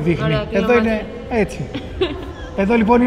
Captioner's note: laughs